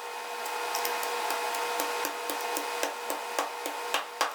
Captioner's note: pestle tapping